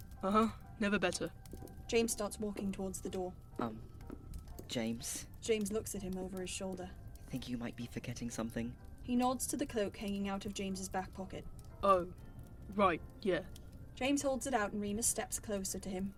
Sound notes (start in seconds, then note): 4.0 footsteps; 6.5 footsteps stop